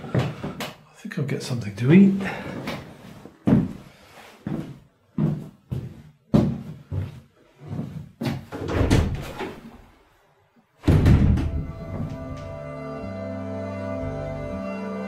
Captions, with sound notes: I think I'll get something to eat. (footsteps) (door opens, closes) (soft outro music)